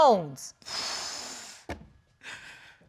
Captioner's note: exhales